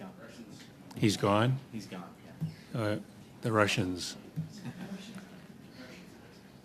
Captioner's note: laughter